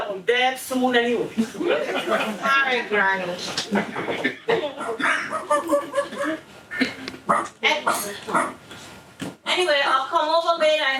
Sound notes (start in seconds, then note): 4.6 dog barking